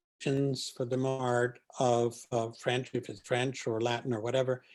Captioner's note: distortion